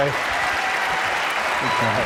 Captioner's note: applause